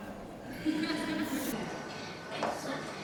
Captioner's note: laughter